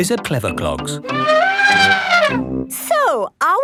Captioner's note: trumpeting